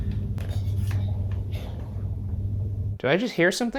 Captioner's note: object rattling